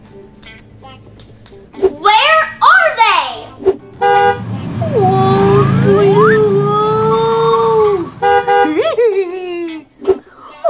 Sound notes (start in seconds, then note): 3.7 beep; 8.4 beep beep; 8.6 hee hee hee